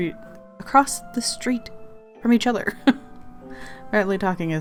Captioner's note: laughs